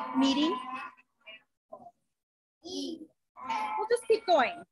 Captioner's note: children chatter